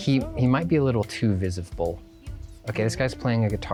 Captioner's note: pat